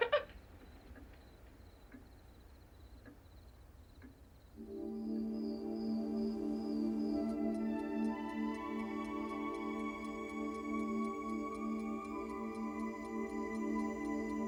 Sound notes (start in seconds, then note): 0.1 Kerry laughs; 4.8 calm music; 4.8 crickets chirping; 8.4 clock ticking